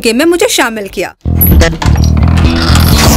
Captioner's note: Door opens